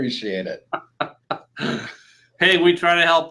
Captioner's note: laughing